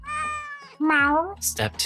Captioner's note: cat meows